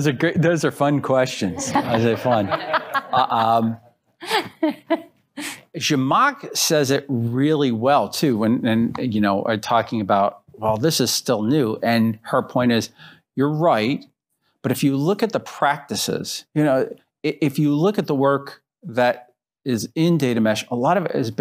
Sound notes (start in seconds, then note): 1.5 laughter